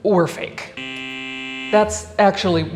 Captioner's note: buzzer buzzes